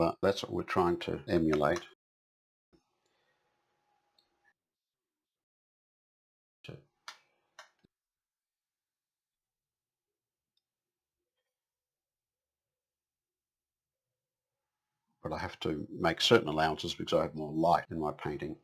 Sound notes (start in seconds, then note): 2.5 silence